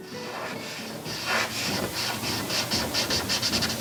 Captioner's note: marker scratching